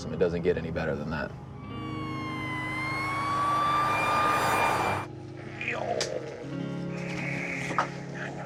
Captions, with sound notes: It doesn't get any better than that. [siren blaring] Ohh. [whispes] I know.